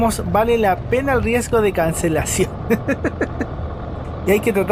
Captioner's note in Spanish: risas